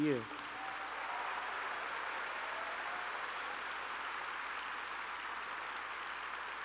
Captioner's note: applause